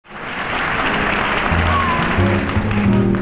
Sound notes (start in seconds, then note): 0.0 audience clapping